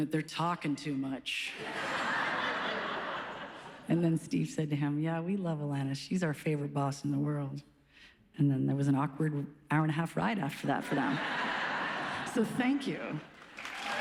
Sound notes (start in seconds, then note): 1.8 laughs; 10.9 audience laughs